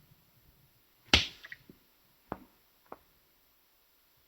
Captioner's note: slapping